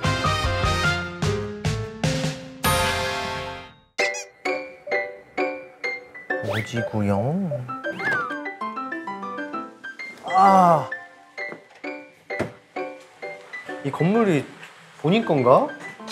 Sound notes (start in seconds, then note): 7.9 door opens